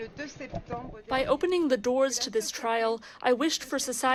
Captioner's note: through translator